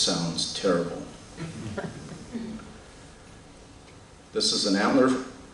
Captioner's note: laughter